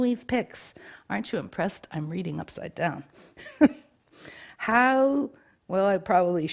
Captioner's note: laughs